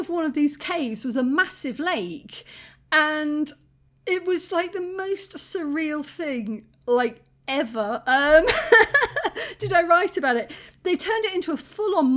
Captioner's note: laughing